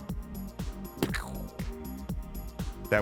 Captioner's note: splat